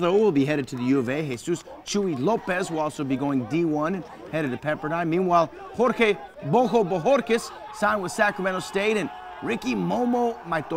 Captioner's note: german